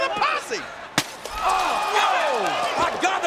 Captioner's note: glass shattering